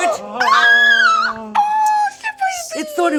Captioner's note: gasping; screaming